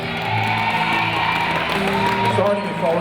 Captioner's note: audience applauding and cheering